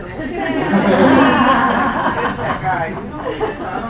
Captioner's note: laughing